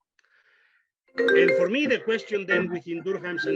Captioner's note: phone ringing